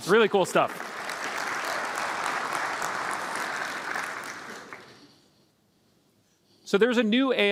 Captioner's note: applause